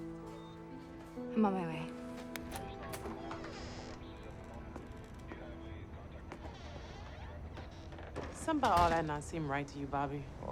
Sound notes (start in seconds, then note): 0.0 gentle tense music; 2.4 door latch clicks; 2.5 hinges squeaking